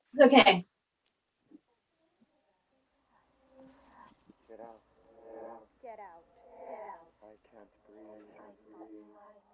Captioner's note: voices whispering: "get out" "I can't breathe"